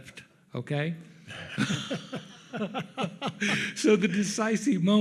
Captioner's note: laugh